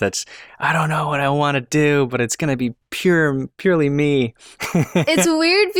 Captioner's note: laughter